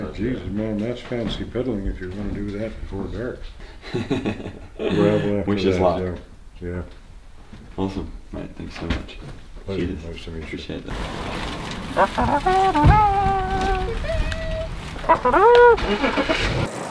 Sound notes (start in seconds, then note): 3.8 laughter; 11.9 imitating bugle